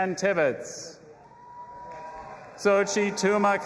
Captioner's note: audience applauding and cheering